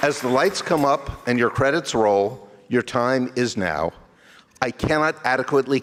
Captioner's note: applause and cheers